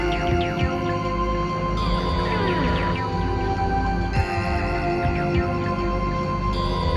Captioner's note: ominous synthesizer music; door creaks